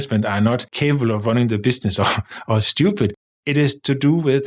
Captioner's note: chuckles